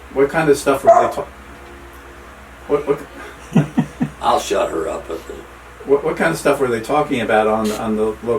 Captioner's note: dog barks; dog barks a third time; dog barks again